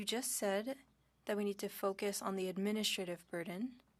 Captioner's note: speaking French